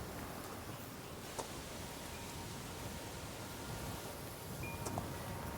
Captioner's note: trees rustling